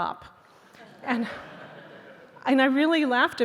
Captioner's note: audience laughing